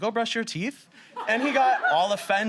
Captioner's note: audience laughs